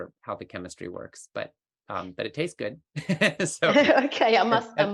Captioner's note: laughs